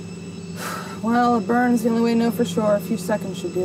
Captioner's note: sighs